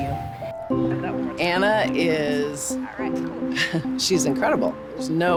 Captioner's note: chuckling